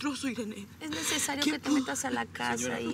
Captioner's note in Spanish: sollozos